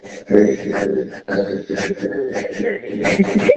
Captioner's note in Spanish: Risa enferma